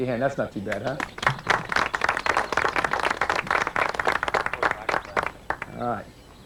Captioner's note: applause